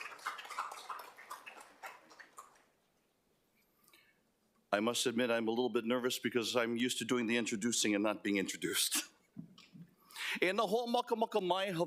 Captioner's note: applause